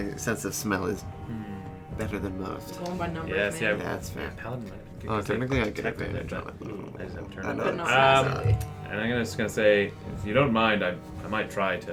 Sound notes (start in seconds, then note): 5.7 "well actually" voice; 6.9 still muttering